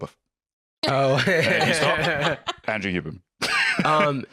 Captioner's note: laughs